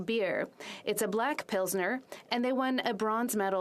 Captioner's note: speaking French